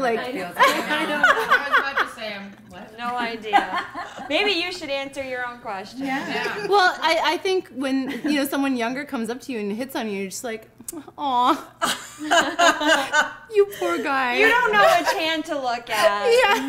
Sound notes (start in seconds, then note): 0.5 laughing; 6.2 women agreeing; 11.8 laughing